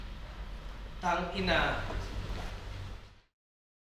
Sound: curses

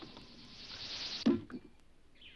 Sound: chest thuds

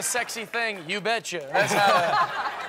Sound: laughter

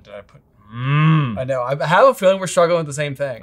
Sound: groaning

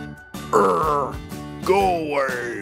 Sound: Nabal groans

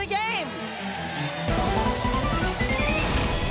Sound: audience applause

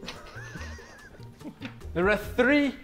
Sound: Sidemen laughing

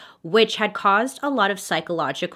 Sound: none

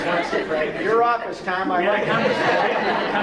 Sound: laughter

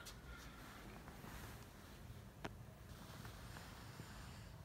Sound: softly snoring

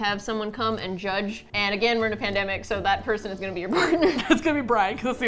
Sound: laughing; laughs

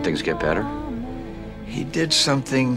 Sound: Yiddish

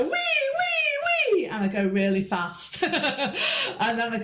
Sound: laughs

